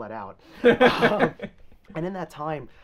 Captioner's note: both laughing